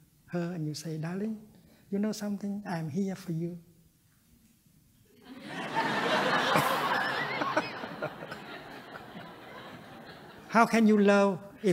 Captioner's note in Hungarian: nevetés